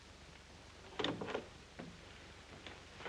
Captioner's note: door opens